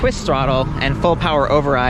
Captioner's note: electric motor whirs